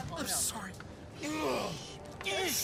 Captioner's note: groaning